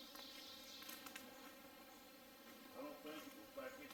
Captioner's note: twigs snapping